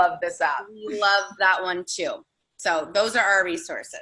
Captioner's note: laughing